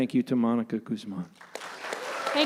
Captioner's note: applause